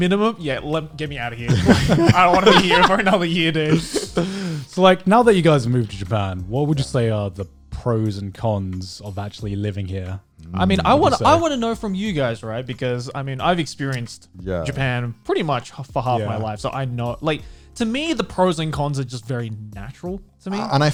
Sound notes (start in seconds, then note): 1.4 guys laughing